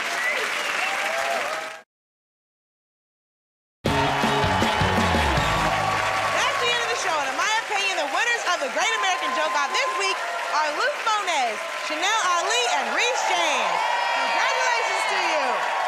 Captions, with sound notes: Stay tuned! [ Cheers and applause ] -That's the end of the show, and in my opinion, the winners of "The Great American Joke Off" this week are Luke Mones, Chanel Ali, and Rhys James. -Yeah! -Congratulations to you!